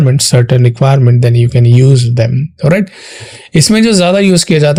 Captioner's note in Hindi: अचानक ज़ोर से सांस लेने की आवाज़